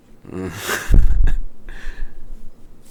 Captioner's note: nervous chuckle